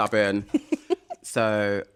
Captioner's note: laughter